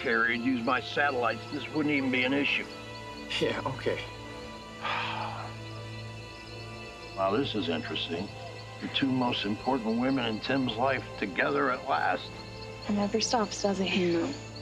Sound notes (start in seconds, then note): 4.8 sighs